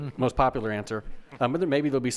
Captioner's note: members laugh